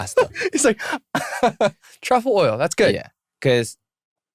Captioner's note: laughter